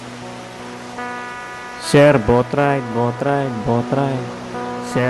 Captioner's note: echo